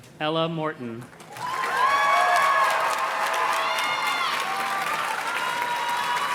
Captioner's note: audience cheers and claps